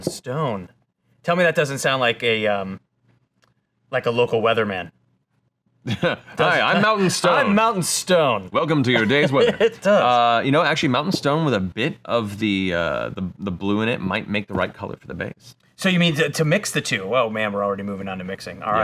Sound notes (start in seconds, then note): 6.5 laughs